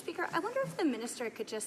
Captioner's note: speaking French